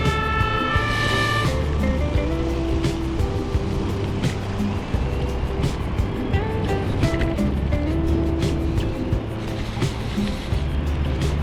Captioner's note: wind Blowing